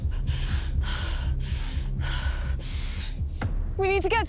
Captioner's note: Lauren panting